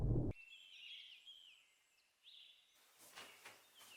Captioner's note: birds chirping